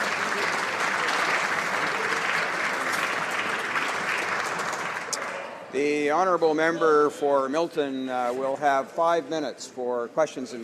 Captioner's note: applause